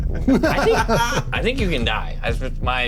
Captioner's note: laughs